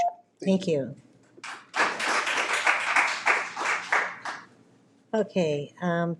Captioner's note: audience clapping